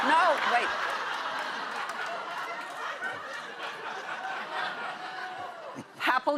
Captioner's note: laughter